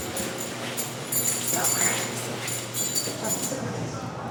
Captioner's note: keys jingling